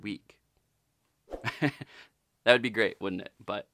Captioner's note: chuckles